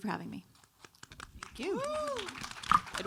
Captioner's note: audience applauds